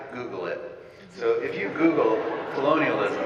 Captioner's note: audience laughing